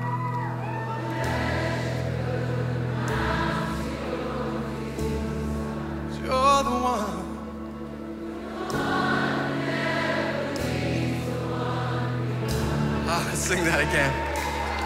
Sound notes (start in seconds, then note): 8.0 crowd